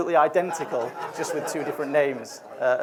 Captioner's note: audience laughs